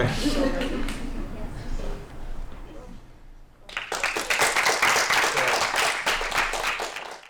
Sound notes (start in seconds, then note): 3.6 applause